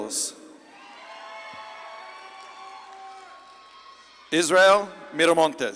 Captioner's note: audience claps and cheers